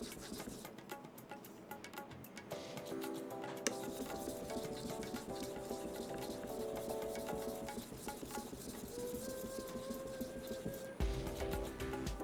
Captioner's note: sound of sharpening; sound of sharpening